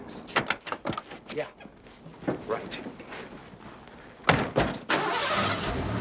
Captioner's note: engine rumbling